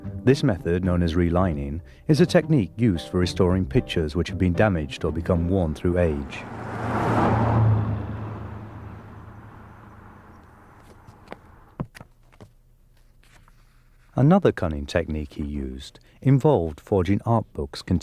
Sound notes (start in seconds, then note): 5.2 car whooshes; 6.7 engine rumbles